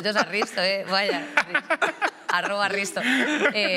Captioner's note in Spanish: algunos ríen